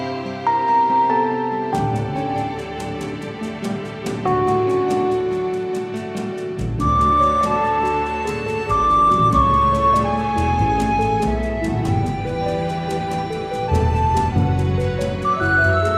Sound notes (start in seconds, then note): none